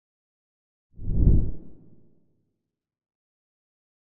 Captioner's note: logo whooshes